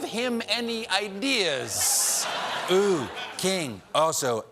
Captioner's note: laughter